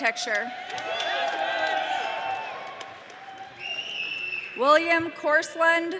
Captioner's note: audience cheering